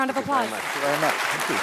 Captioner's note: applause